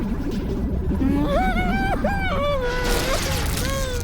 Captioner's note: whimpers nervously